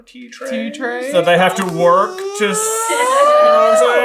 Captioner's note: progressively higher pitched question sound